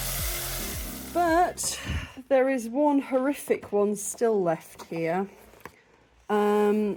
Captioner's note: sigh